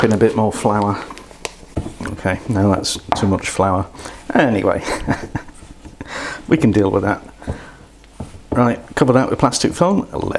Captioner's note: laighs